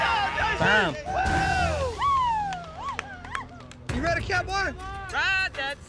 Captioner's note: all cheering